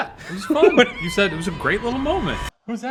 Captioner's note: laughs